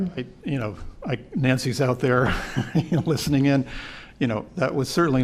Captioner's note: laughter